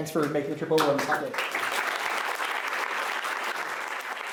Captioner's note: applause